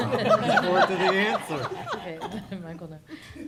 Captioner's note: laughter